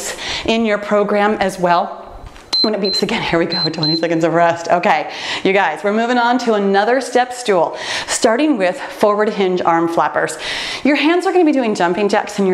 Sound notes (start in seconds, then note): 2.5 timer beeps